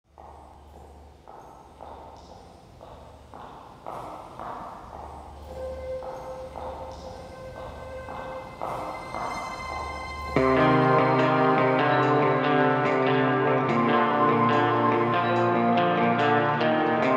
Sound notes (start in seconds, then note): 0.1 footsteps